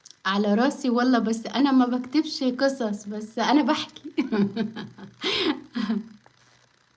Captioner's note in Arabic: ضحك